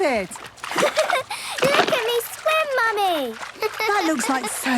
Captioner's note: giggles